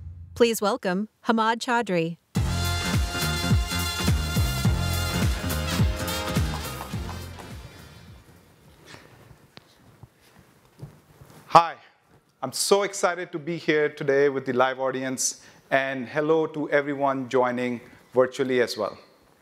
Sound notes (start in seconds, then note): 2.3 upbeat music; 6.8 audience applauding